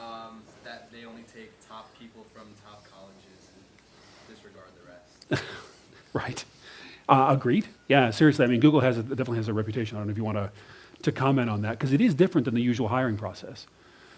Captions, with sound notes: - [Voiceover] That they only take top people from top colleges and disregard the rest. - (laughs) Right. Agreed. Yeah, seriously, I mean Google definitely has a reputation if you want to comment on that, 'cause it is different than the usual hiring process.